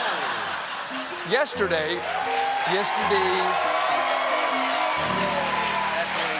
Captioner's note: cheers and applause